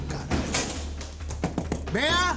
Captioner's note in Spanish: Llama a la puerta